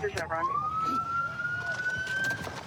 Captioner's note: sirens